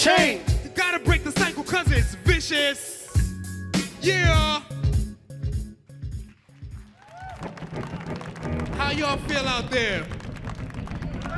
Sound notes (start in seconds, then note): 6.2 audience applauding